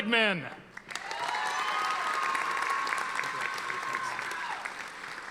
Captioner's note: audience applauding